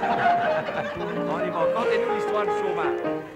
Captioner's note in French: rires